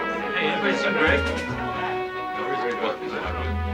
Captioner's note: chattering